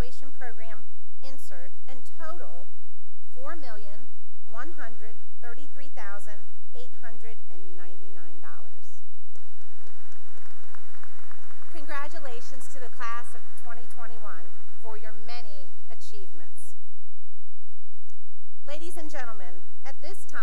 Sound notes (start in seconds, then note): 9.3 applause